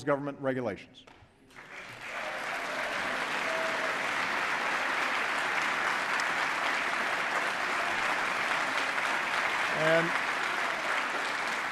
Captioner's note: applause